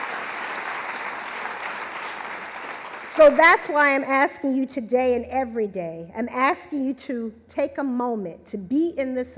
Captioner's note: applause